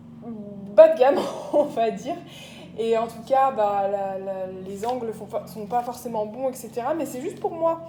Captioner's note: laughter